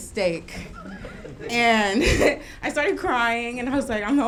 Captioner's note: laughs